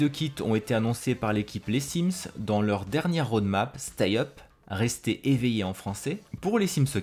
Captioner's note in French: « Restez éveillés » en français